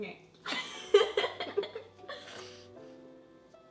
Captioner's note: laughs